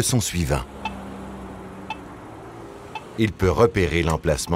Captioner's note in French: bips réguliers